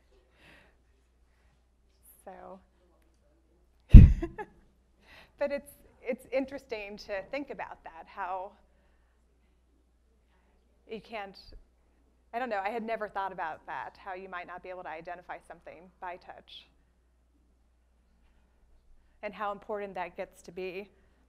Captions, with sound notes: So. (laughs) But it's interesting to think about that, how you can't, I don't know, I had never thought about that, how you might not be able to identify something by touch. And how important that gets to be.